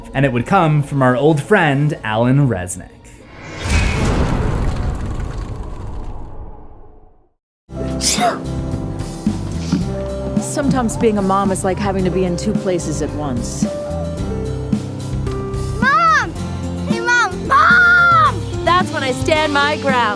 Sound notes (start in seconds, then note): 3.2 impact; 7.9 sneeze